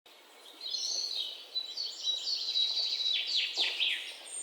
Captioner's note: birds chirping